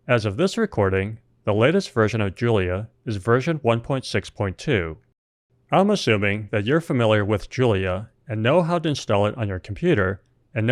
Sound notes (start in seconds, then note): none